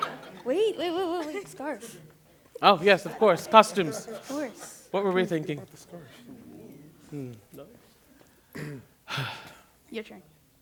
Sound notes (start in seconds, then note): 6.0 chatter; 8.5 clears throat